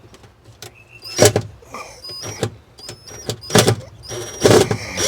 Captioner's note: beeping and electric drill